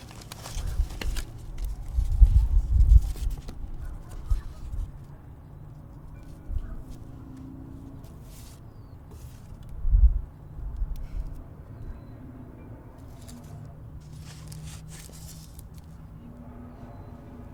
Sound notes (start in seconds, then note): 0.0 paper rustling; 7.9 paper rustling; 12.9 traffic humming faintly continues